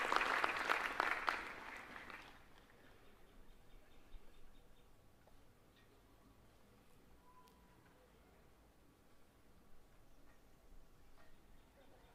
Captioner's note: applause